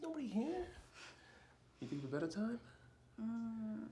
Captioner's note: Cheryl sighs